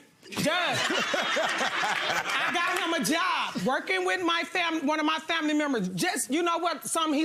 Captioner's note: laughs; audience laughs